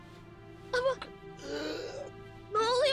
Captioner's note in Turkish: Nefes sesi